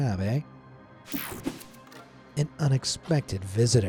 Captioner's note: transition slashes